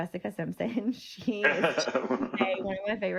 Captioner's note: laughing